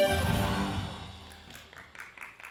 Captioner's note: audience clapping